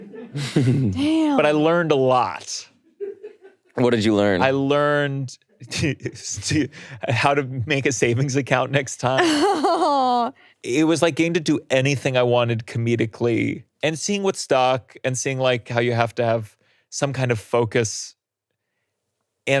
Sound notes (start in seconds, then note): 0.0 chuckles; 6.1 laughs; 9.2 laughing